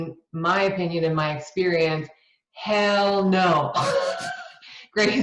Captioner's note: laughs